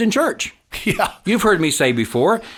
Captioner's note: laughs